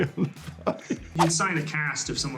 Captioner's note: laughing